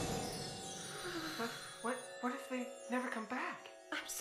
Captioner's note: Florence shivering